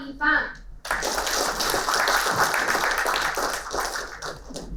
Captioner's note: applauding